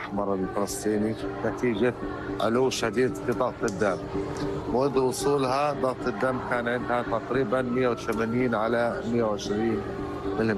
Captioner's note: speaking in a global language